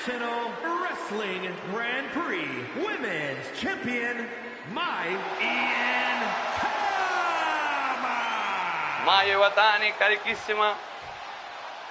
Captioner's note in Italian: urlo